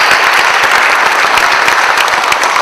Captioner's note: applause